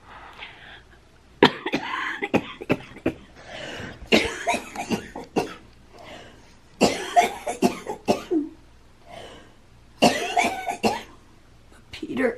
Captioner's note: coughing